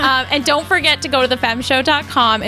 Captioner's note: laughs